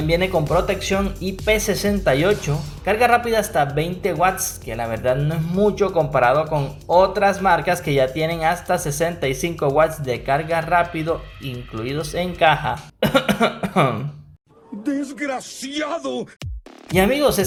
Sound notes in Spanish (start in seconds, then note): 12.9 cof cof cof